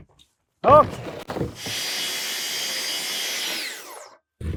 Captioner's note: power tool whizzing